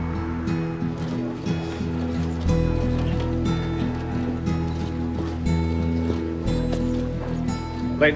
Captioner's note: busy office chatter